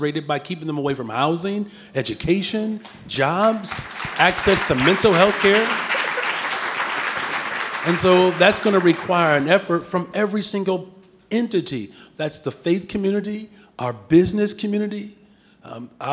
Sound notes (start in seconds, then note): 6.2 audience clapping